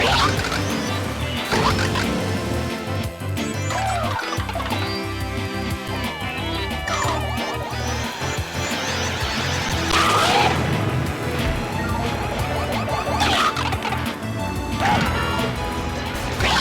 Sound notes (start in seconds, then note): 0.0 In-game sounds of Mario Kart Wii; 8.0 sound of an approaching blue shell; 8.8 Blue shell explosion